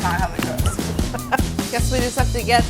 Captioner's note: laughter